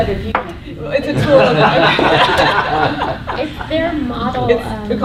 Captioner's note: laughter